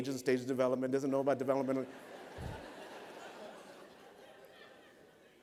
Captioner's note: laughter